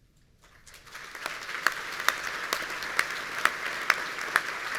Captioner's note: audience applauding